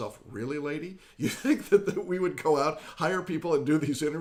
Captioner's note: laughs